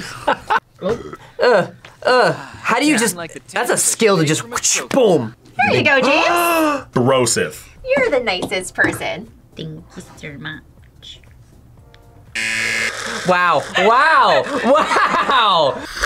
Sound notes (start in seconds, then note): 0.1 laughs; 6.2 James gasps; 12.2 slurps; 12.3 buzzer rings